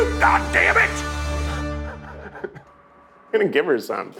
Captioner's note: laughs